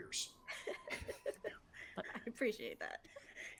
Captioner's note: people chuckling